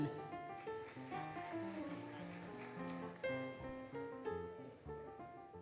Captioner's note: applause, Cheering, Music